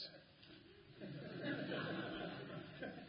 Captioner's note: laughter